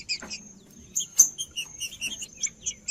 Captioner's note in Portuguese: trinca ferro cantando